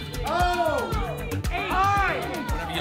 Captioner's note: audience shouting letters